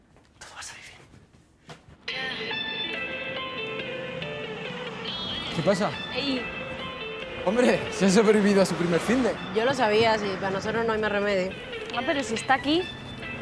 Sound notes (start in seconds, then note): none